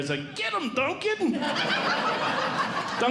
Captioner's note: audience Laughing